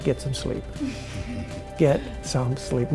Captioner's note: laughs